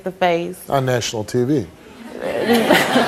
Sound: all laugh

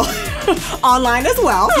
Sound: laughing

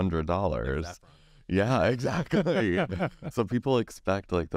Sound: laughs

